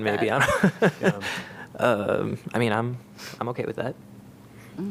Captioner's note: laughter